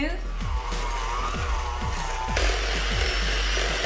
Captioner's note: mixer spins